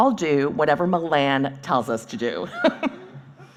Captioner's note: laughing